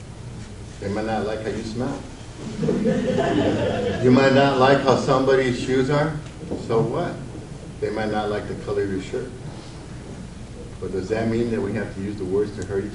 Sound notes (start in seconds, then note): 2.4 audience laughs